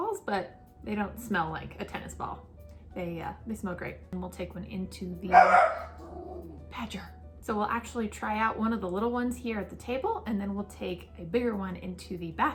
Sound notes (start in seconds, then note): 5.3 dog Barks